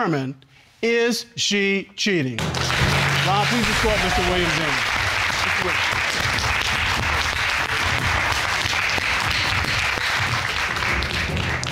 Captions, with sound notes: to determine, is she cheating? (AUDIENCE APPLAUDING) Ron, please escort Mr. Williams in.